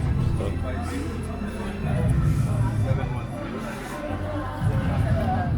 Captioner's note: indistinct crowd chatter